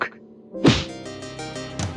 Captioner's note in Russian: хлёсткий удар